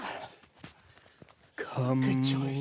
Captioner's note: scuffling